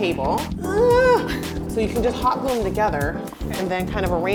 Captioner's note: groans